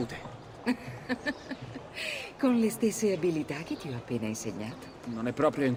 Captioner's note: laughs